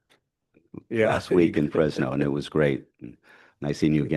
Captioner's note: laughs